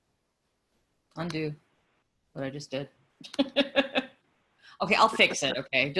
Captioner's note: laughing